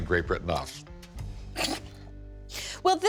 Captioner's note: scoffs